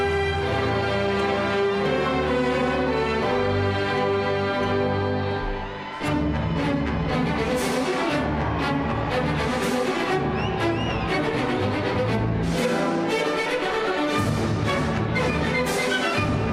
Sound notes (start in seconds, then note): 5.9 crowd cheering; 5.9 energetic classical music